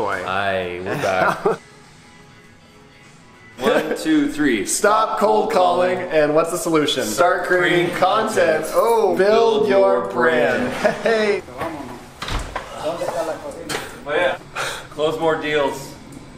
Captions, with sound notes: - Aii, we're back. - (Laughing) (easy guitar strumming) - One, two, three. Stop cold calling. - Stop cold calling. - And what's the solution? Start creating content. - Start creating content. Oh! Build your brand. - Build your brand. Heheyy! - Close more deals.